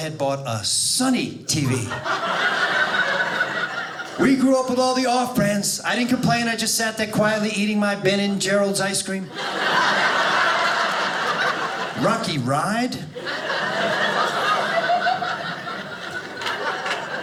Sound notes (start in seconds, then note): 9.2 audience laughing